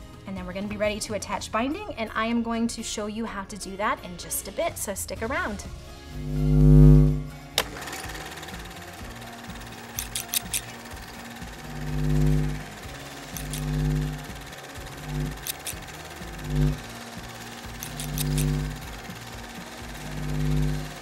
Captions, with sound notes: and then we're gonna be ready to attach binding. And I am going to show you how to do that in just a bit. So stick around. (sewing machine buzzing)